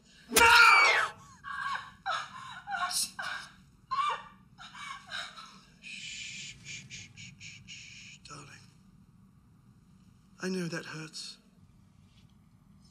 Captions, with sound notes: now! (bartender screams) (bartender sobbing) Shh, shh, shh, shh, shh, shh, darling. I know that hurts.